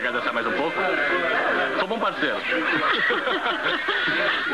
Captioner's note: laughs